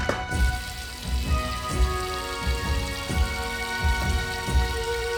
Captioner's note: water rushing